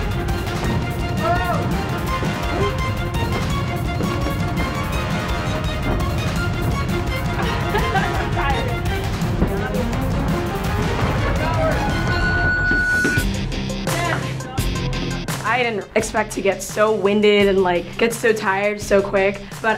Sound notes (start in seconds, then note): 1.1 crowd shouting; 7.2 laughs; 11.6 round timer sounds